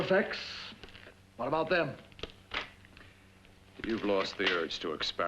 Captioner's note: glove smacks